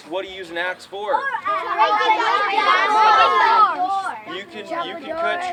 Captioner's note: children chattering